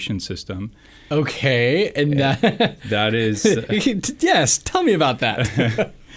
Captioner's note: laughs